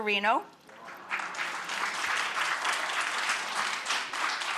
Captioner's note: audience applauding